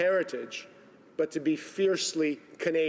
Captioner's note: speaking Italian